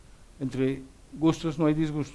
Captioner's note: speaks Spanish